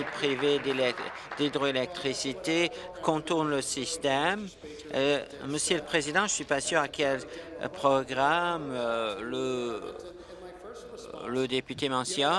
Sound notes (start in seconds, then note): 2.6 applause